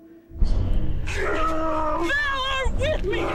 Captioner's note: yelling